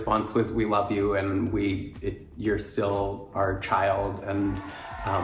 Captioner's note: crowd cheering